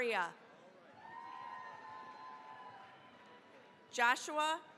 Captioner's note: cheering, applause